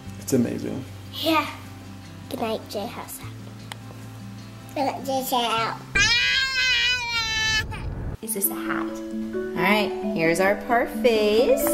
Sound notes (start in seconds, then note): 5.9 child screaming